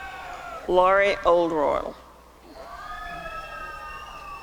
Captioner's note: applause and cheering; applause and cheering